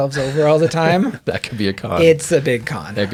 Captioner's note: laughs